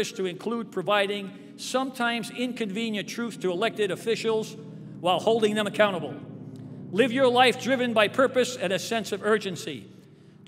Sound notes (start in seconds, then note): none